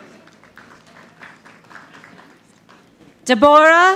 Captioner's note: audience clapping